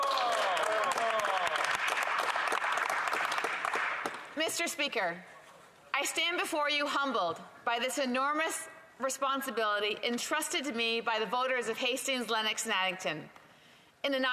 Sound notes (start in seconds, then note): 5.4 applause